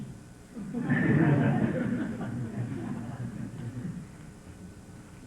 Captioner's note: laughter